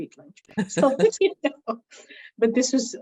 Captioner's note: laughs